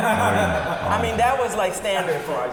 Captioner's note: laughing